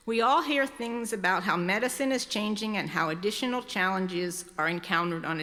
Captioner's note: none